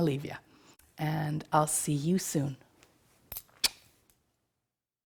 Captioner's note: lips smacking